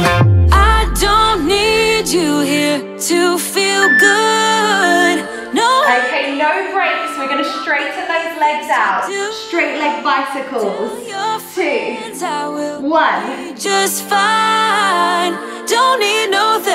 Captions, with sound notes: (beeping) (exhaling) Okay, no breaks. We're going to straighten those legs out. Straight leg bicycles, two, one.